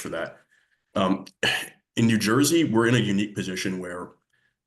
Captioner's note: clears throat